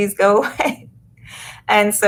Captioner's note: laughs